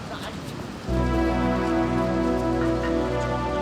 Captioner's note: wind blowing